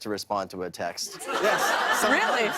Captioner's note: laughter